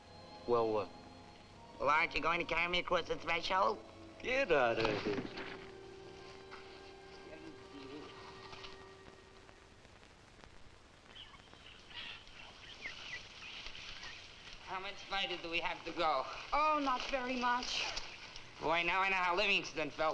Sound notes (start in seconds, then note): 7.1 Sammy mumbles faintly; 11.0 birds chirping